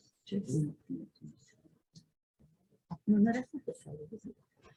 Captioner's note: people murmuring